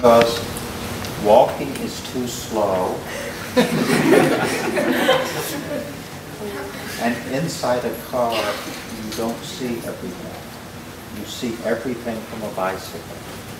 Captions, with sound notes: Because walking is too slow. [LACHEN] And inside a car, you don't see everything. You see everything from a bicycle.